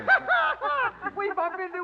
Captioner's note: laughter